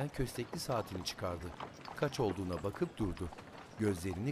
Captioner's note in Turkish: At arabası sesi